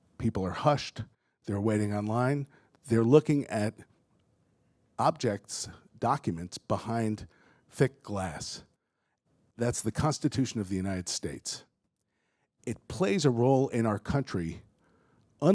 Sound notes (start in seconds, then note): none